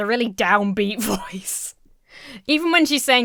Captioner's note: Emma laughs